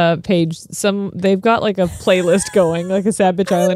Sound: laughs

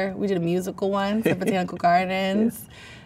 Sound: man laughs

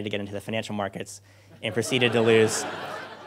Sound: crowd laughter

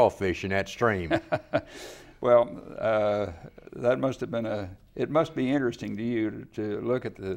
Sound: laughs

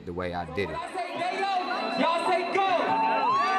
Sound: concert audience

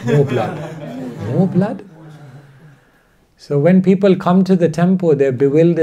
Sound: audience laughter

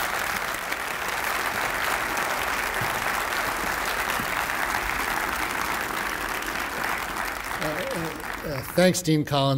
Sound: audience applause

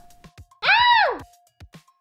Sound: scream

